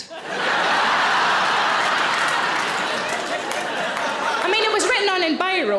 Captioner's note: audience laughs